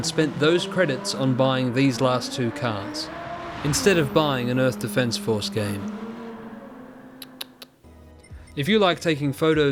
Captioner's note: tsk, tsk tsk